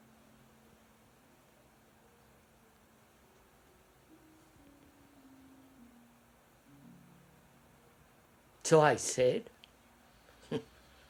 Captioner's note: laughs